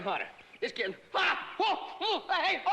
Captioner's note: yells hysterically